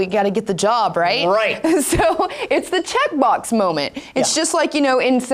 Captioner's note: laughs